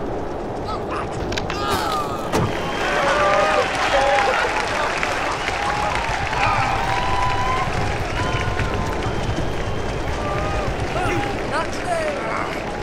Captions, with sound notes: (screaming) (applauding) You! - Not today!